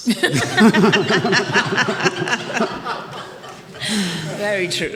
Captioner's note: attendees laughing